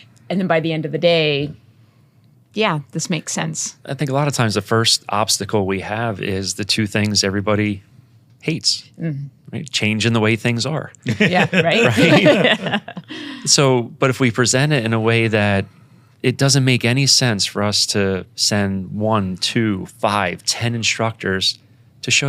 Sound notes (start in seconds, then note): 11.0 panel laughing